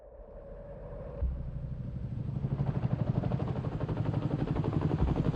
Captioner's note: helicopter blades humming